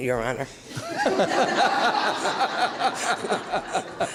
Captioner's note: laughing